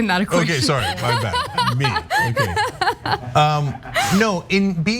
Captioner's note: laugh